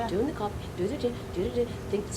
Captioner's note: repeating rhythmic gibberish